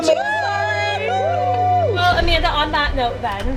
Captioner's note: group cheers